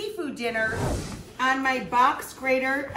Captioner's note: air whooshes